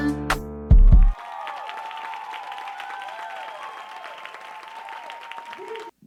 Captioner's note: audience cheering and applauding